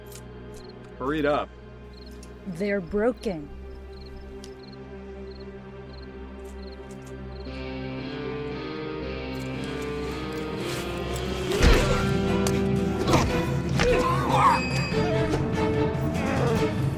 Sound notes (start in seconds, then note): 11.5 thuds